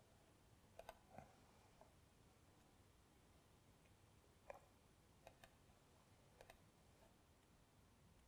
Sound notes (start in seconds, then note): 5.2 mouse clicking